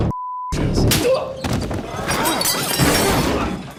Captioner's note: slap landing; dishes clanking